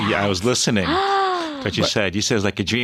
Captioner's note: gasping